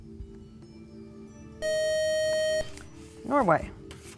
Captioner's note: loud buzzer